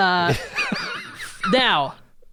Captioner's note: laughs